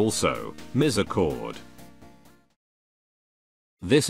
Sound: long Pause

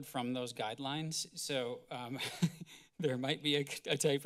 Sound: giggle

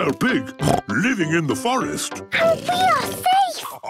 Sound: snorts

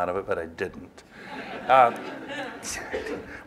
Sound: laughter

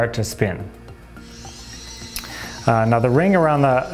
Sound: whirring

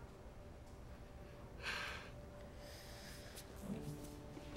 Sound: sighs

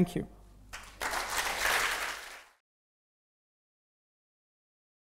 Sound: audience applauding

